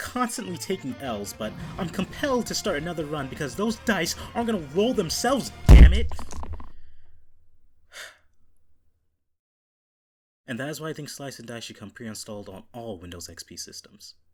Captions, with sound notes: I'm constantly taking L's, but I'm compelled to start another run because those dice aren't gonna roll themselves, damn it! (deep sigh) And that is why I think Slice & Dice should come preinstalled on all Windows XP systems.